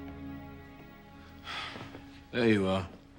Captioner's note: Spike sighs